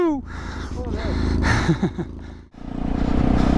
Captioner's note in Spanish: risas